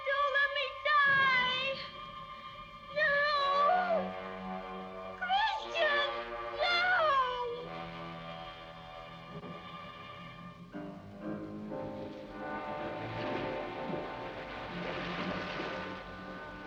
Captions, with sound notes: Don't let me die! No! Christian, no! (ominous music) (waves crashing)